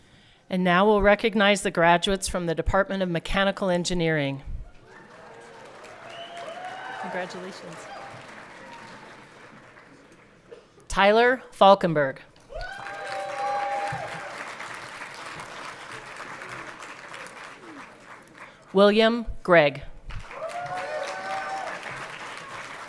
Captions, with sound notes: - And now we'll recognize the graduates from the Department of Mechanical Engineering. Congratulations. (everyone clapping) Tyler Falkinburg. (everyone cheering) William Greig. (everyone clapping)